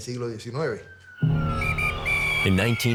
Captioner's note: whistle blowing